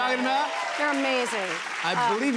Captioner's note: cheers and applause